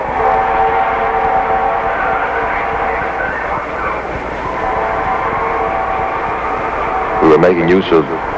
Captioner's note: sirens